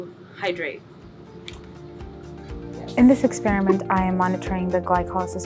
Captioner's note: chuckles